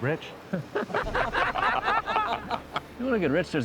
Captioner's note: men laughing